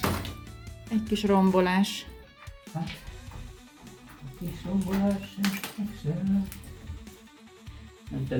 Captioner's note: humming